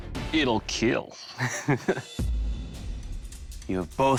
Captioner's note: laughs